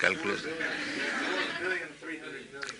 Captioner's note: laughter